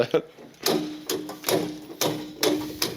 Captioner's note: fuse switches clacking